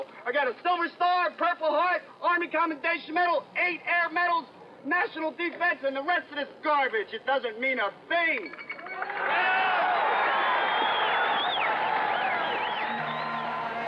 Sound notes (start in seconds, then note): 8.8 cheers and applause